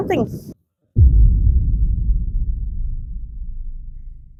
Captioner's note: boom Sound